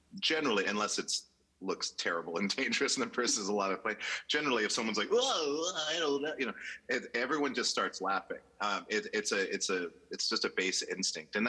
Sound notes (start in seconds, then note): 4.7 mouth sound